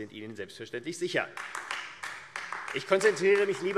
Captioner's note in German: Beifall AfD